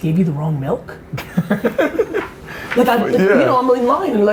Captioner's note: laughs